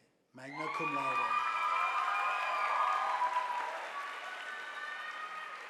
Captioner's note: audience applauding